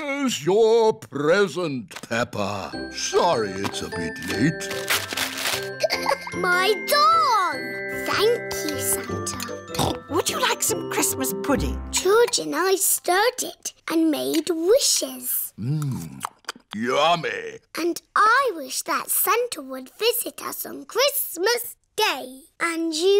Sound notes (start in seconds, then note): 5.8 laughs; 9.7 snorts